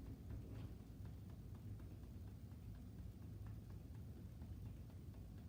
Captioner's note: gentle tapping